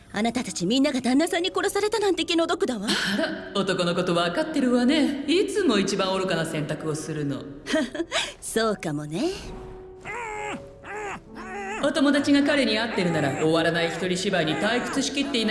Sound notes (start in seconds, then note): 3.2 voice echoing softly; 7.8 chuckles wryly